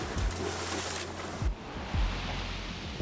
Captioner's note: wind blowing